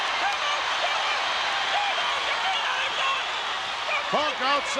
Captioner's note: crowd cheering; Jimmy Hart shouting